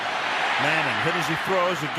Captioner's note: cheering